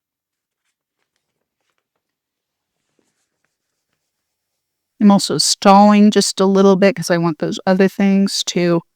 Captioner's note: silence